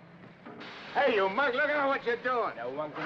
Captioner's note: ashes hiss